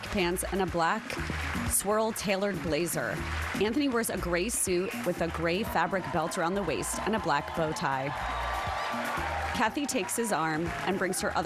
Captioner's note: applause